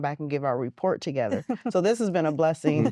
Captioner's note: giggling